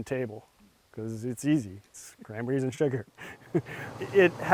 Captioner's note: laughs